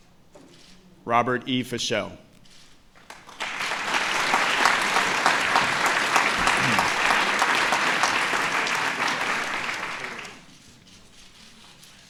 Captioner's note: applause